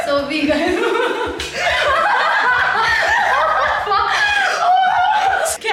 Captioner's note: laughing